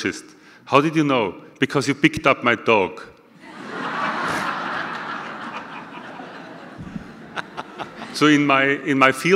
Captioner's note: audience laughter